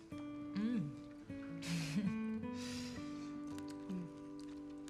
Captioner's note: chuckles